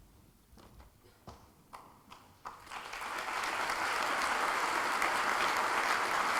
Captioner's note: applause